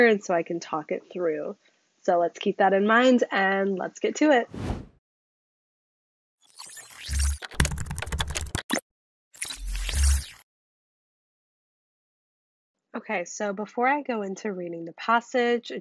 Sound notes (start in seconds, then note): 4.5 electronic swoosh; 7.5 typewriter clacking